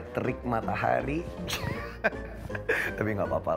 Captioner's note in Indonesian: Ketawa